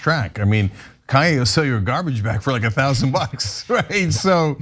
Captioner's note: laugh